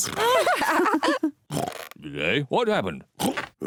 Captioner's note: lady pigs giggle